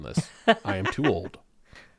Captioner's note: laughs